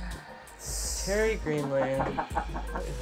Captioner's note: laughter